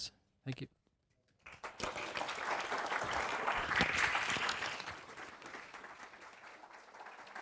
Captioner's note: applause